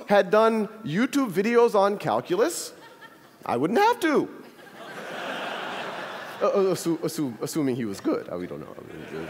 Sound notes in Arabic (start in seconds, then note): 4.0 ضحك; 9.0 ضحك